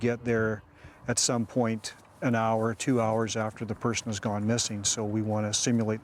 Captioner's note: grass rustling